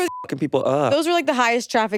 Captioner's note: beeps